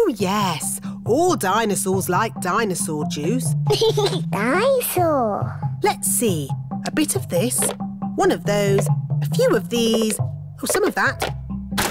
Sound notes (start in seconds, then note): 3.6 giggles